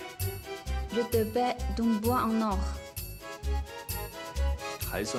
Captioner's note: French